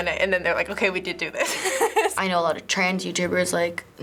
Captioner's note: laughs